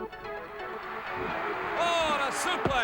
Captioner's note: crowd cheering